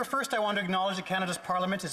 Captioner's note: speaking Indigenous Language